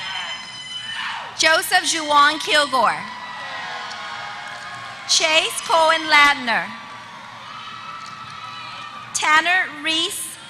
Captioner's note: applause; applause